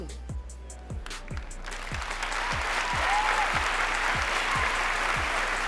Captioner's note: cheering